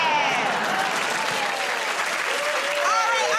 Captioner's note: cheers and applause